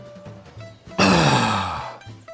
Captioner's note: exhale